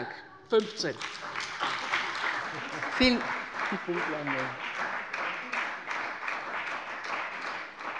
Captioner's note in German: Beifall bei der CDU und dem BÜNDNIS 90/DIE GRÜNEN